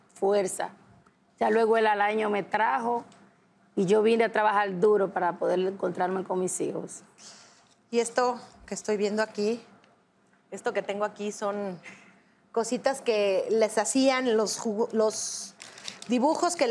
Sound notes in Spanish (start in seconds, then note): none